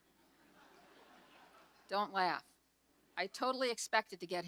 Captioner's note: audience laughs